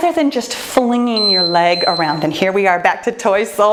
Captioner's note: timer beeps